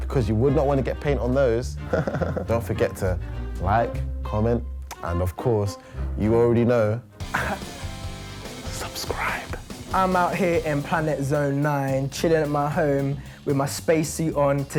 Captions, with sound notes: because you would not want to get paint on those. (chuckles) Don't forget to like, comment, and of course, you already know, subscribe! - I'm our here in Planet Zone 9, chillin' in my home with my space suit on.